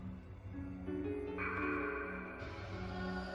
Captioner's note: raven cawing; expressive and eerie orchestral music